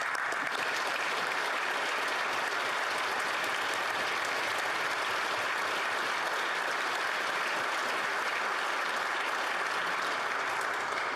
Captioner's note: applause